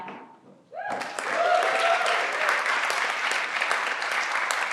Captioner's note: everyone claps